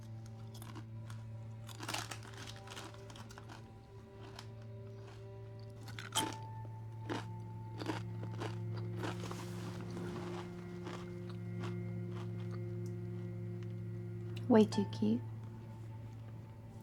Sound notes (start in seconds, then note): 0.1 Liz munching; 2.1 snack bag rustling; 6.9 Liz munching